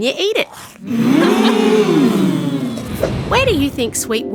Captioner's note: crowd oohing